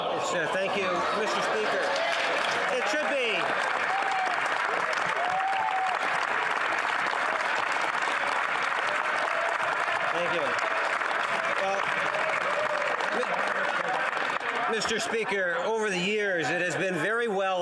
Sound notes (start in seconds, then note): 6.6 some Applause